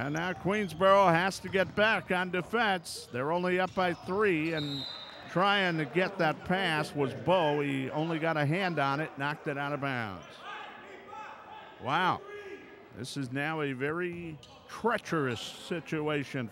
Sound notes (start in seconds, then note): 4.5 whistle blows; 10.5 yelling